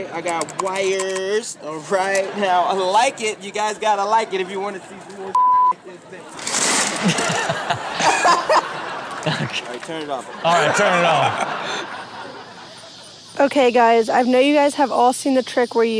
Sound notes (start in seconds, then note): 5.3 beep; 8.0 audience laughs